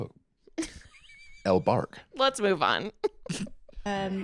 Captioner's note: laughs